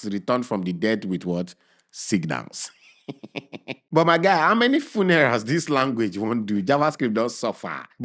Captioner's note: chuckles